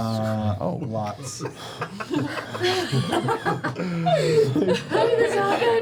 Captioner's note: laughter